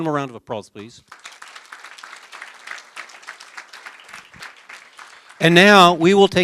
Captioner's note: applause